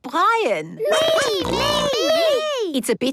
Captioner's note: snorting